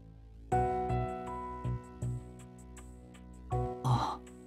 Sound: sigh

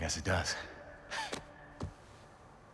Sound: laugh

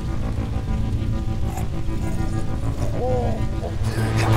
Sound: zombie groaning; zombie snarling

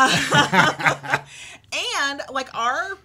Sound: both laugh

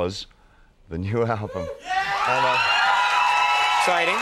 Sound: crowd cheers

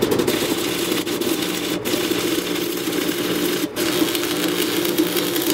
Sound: sizzling metal sounds

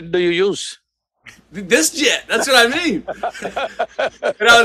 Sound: Sadhguru laughs

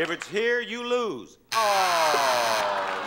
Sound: buzzer sounds

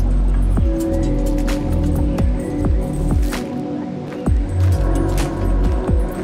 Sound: birds chirping; intense upbeat music

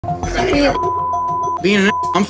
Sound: beep

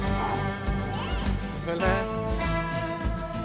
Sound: sighs

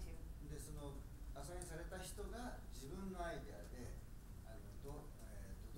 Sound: speaking in foreign language

